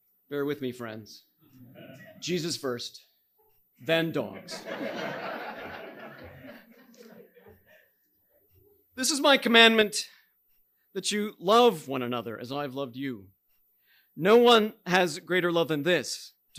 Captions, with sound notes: Bear with me, friends. Jesus first, then dogs. (audience laughing) "This is my commandment that you love one another as I have loved you. No one has greater love than this,